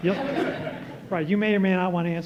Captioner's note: laughter